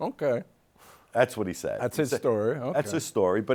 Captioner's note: chuckles